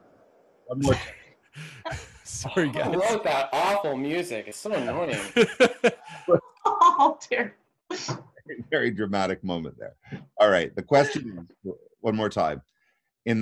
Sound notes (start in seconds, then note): 1.6 chuckling; 4.6 laughing